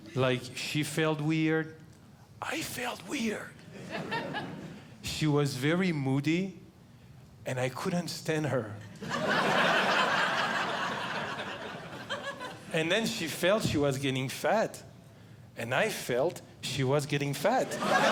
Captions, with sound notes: Like she felt weird. I felt weird, [Audience Laughing] she was very moody and I couldn't stand her. [Audience Laughing] And then she felt she was getting fat. And I felt she was getting fat.